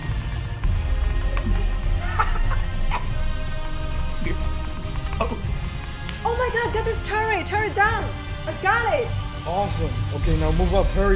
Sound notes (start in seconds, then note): 1.4 laughing